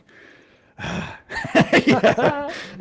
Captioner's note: laughs